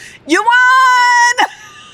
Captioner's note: laughs